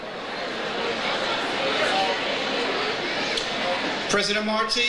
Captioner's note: overlapping chatter